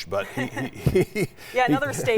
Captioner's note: laughing